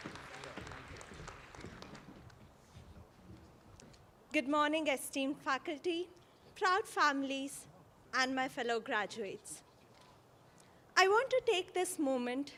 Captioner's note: applause